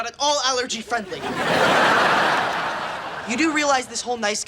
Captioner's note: audience laughing